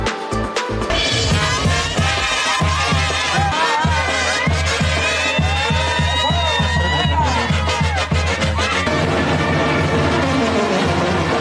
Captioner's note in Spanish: voces